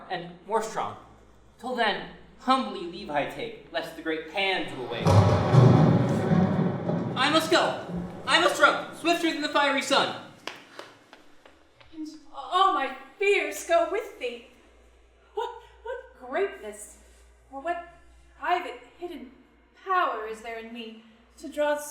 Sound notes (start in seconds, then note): 5.0 thunder booms